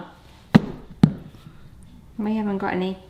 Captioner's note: banana thuds